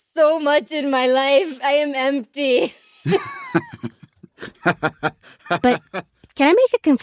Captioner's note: laughs